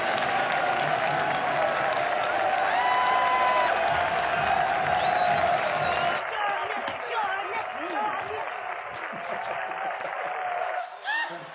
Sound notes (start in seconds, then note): 2.6 yells; 9.0 chuckles